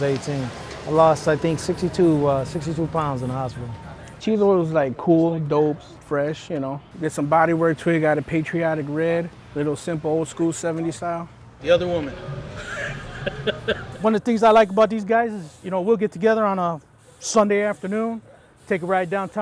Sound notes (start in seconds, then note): 12.4 laughing